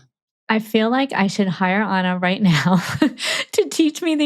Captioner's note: chuckles